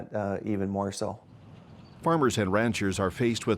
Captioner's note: birds tweeting